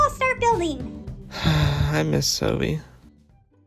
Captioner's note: sigh